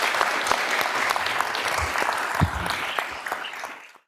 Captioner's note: audience applauding